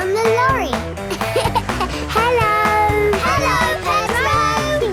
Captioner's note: laughing